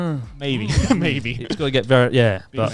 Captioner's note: chuckling